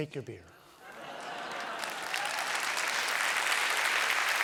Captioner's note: applause